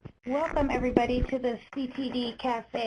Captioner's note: voiceover